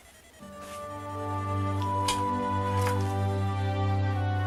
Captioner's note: game like sounds of interest